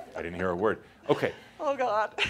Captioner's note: she chuckles